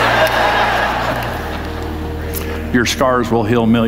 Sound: audience laughs

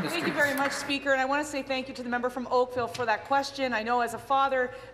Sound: applause

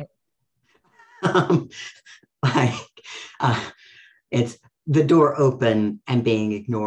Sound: laughs

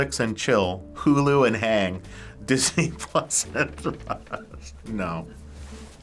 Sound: chuckles

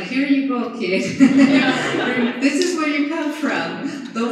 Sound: laughter

